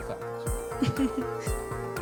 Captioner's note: laughing